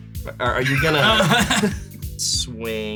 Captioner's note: laugh